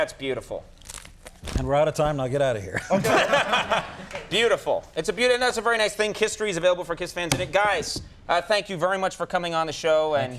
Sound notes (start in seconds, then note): 2.7 Conan laughs